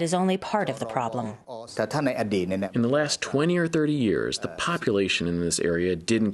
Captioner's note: through translator